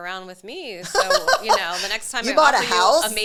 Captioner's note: laughs